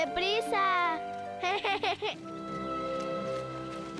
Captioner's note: giggling